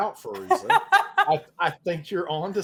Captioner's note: all laughing